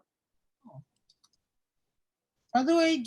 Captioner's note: mouse clicking